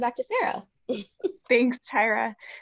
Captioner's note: chuckles